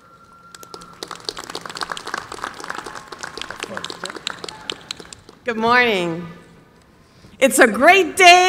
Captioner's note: applause